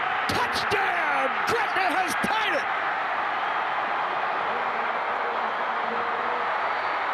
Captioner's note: fans cheer